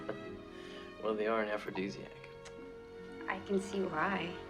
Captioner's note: laughing